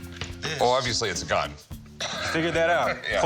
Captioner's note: laughs